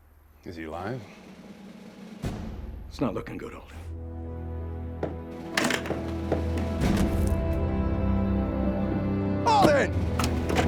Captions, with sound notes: IS HE ALIVE? IT'S NOT LOOKIN' GOOD, ALDEN. [CLATTERS] [RUNNING FOOTSTEPS] [CAR DOOR OPENS, CLOSES] ALDEN!